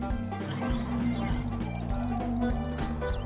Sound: mechanical noise

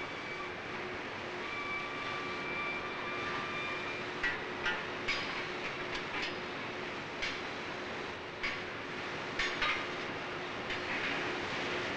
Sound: sound of machinery and workers' equipment

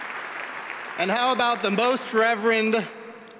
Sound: applause

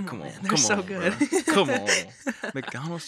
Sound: chuckles

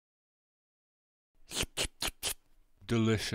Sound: intense slurping noises

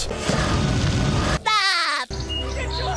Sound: laughing

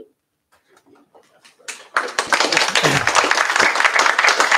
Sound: applause

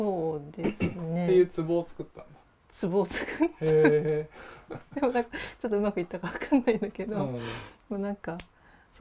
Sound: laugh

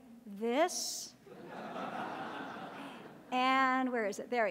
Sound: audience laughing

